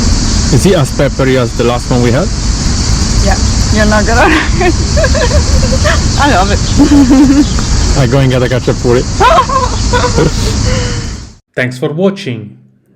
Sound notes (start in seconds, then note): 4.2 laughing; 9.2 laugh